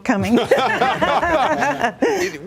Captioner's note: laughter